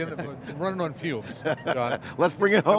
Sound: laughs

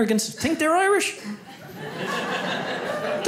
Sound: audience laughs

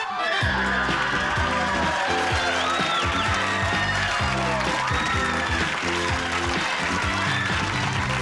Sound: audience applauding

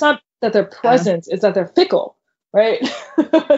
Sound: laughing

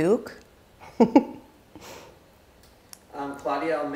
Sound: chuckles

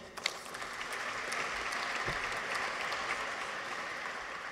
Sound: audience applauds

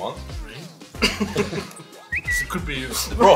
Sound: people laugh

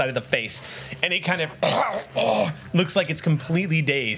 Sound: choking sounds

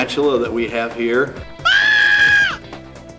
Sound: scream

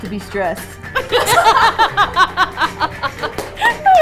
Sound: all laughing

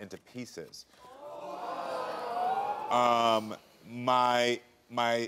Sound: audience murmuring

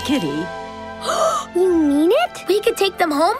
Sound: gasps

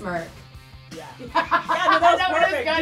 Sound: laughing

